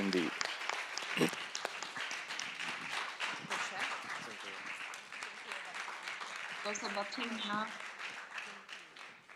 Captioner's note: applause